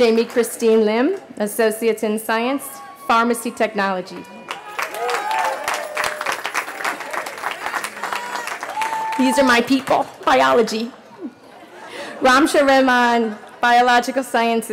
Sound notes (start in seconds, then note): 5.0 cheering